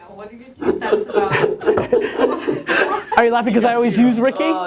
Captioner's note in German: Lachen